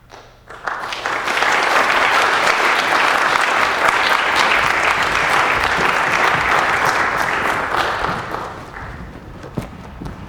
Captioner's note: audience clapping